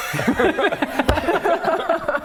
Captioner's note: wishful laughter